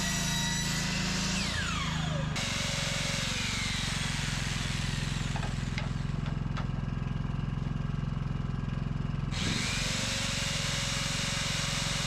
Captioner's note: engine rumbling